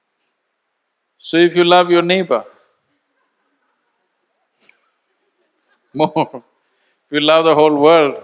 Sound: laughs

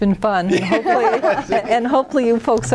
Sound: laughing

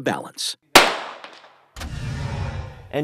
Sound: gunshot

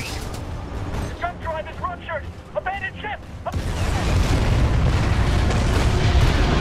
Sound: radio

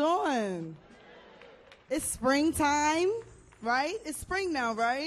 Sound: audience cheers

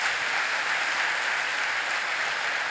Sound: applause

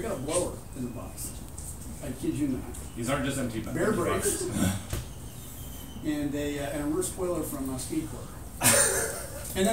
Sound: laughing

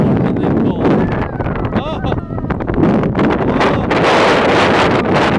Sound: wind gusts

